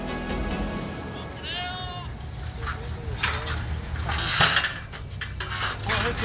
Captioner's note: workers chatting; metal creaking